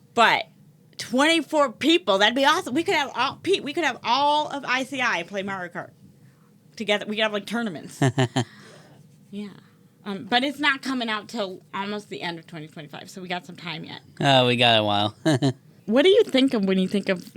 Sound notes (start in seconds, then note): 8.0 laughs